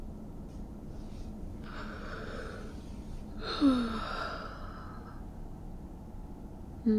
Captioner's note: sleepy yawns